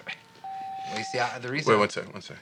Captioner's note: phone beeps